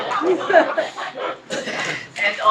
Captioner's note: laugh